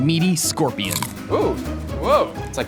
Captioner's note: scorpion crunches